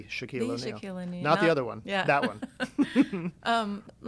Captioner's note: laughs